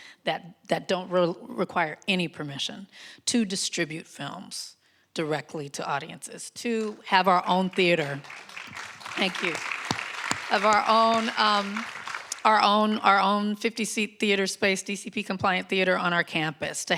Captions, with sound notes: that don't require any permission to distribute films directly to audiences, to have our own theater. (audience applauding) Thank you. Of our own, our own 50-seat theater space, DCP compliant theater on our campus,